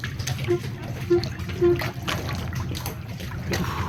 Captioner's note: ship toots in distance